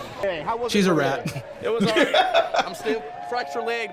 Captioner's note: laughs